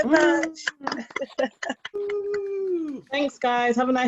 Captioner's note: clapping